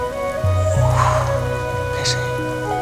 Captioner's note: Sighs